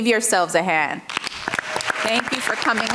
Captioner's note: audience clapping